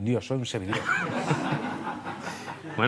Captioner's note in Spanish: Risas